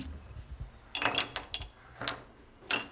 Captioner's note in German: Leises Klappern